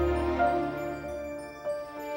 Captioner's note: none